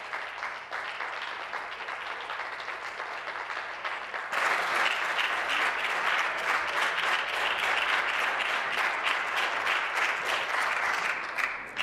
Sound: applause

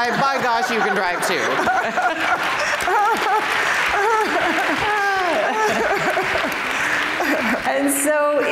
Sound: laughter; applause

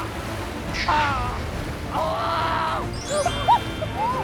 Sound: the cries continue with the harsh currents

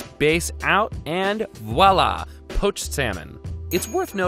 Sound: bell dings

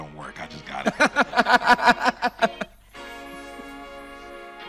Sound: host laughing

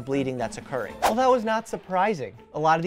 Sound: swooshing

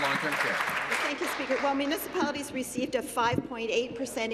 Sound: applause

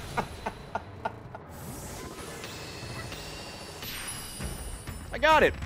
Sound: laughs

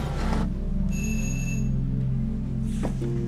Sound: doorbell

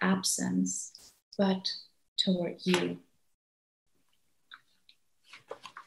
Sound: papers rustling

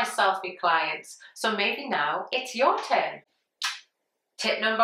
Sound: mwah

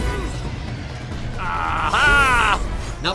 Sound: Leviathan shrieks

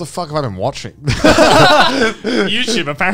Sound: all laughing

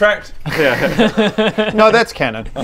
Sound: cautious laughter

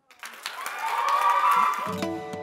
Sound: applause

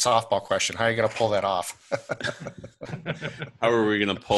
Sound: laughs

